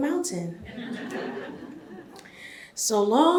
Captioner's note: audience chuckles